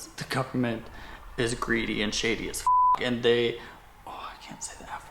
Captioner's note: beep